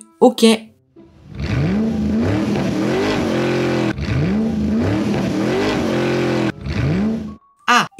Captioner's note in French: Bruit de voiture